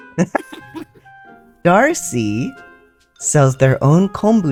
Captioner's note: laugh